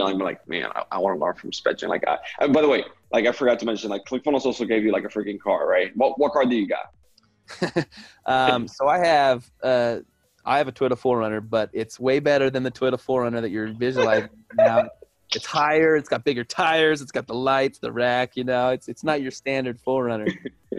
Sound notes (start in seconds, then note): 13.8 laughing